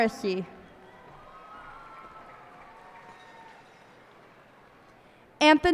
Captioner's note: cheers and applause